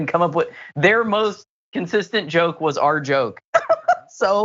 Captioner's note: laugh